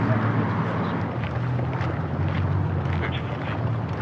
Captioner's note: fooootststepsps